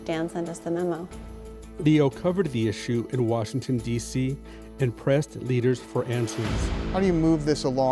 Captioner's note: voiceover